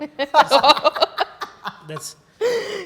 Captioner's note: group laughs